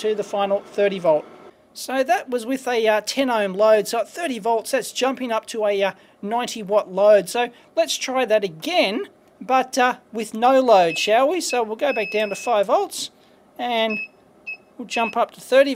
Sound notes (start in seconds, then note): 11.8 beeps; 11.9 beep